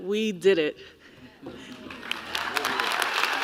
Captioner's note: applause